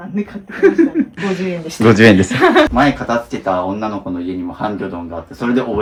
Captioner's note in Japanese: 笑い